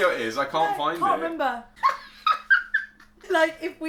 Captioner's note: laughs